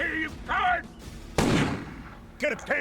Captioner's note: fires gunshot in air